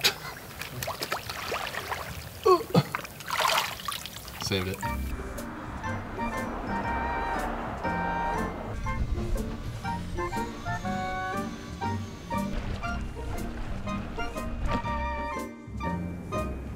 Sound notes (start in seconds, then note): 0.2 laughing; 2.4 grunting; 6.4 light-hearted music